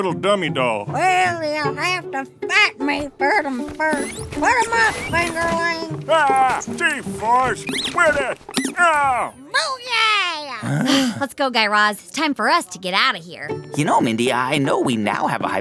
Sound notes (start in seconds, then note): 6.2 soundbite of squeaking; 10.6 groans